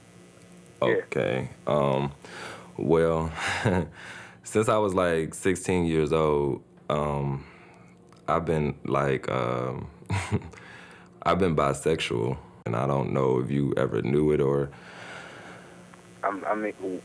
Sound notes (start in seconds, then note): 3.4 laughs; 10.1 laughs; 16.1 father, on phone